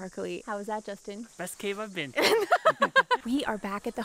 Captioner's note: both laugh